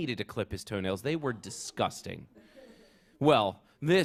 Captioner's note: laughter